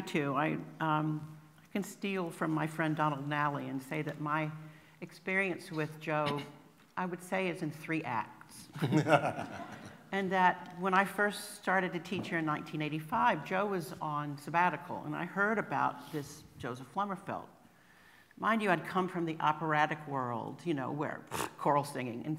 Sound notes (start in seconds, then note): 8.7 laughter